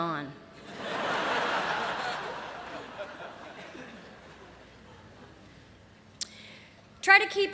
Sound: laughter

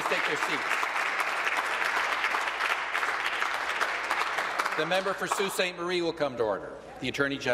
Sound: applause

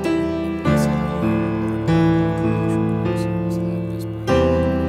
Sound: prays quietly

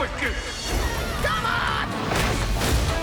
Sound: yells

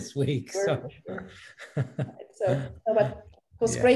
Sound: chuckles

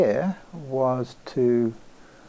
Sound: none

